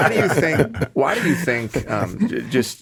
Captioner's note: all laughing